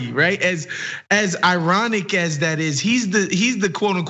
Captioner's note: laugh